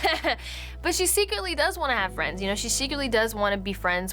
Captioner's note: laughs